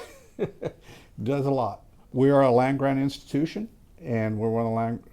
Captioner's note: chuckles